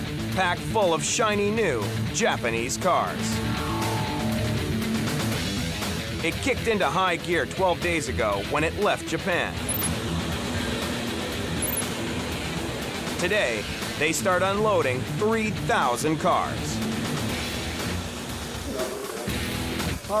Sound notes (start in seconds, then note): 9.5 machine humming; 17.1 fast-paced rock music continues